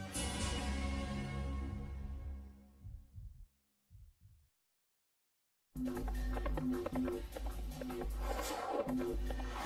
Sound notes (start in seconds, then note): 2.7 heart beating; 5.5 hooves galloping